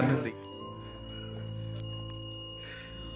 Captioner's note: bell ringing